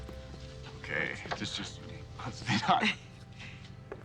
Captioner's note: laughs